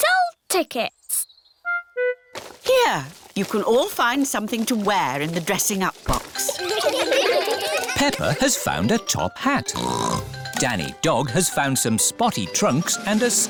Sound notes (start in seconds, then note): 6.4 all giggle; 9.7 snorts